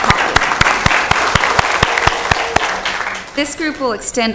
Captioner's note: applause